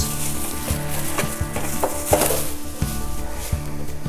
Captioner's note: plastic rattling